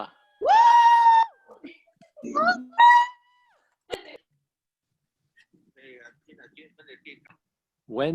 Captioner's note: cheering